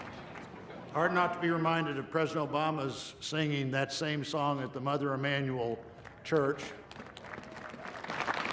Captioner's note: cheers and applause